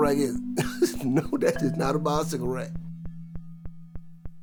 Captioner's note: chuckles